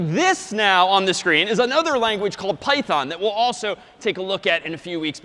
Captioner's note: none